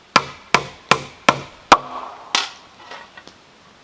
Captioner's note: hammering